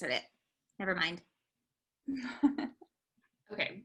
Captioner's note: laughter